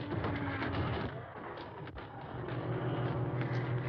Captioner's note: banging